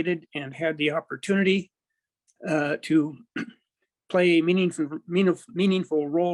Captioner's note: clears throat